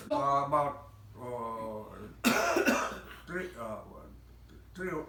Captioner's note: coughing